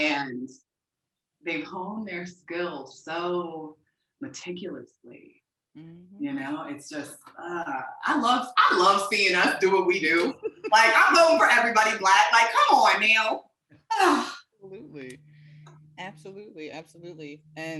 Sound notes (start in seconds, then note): 9.1 interviewer laughing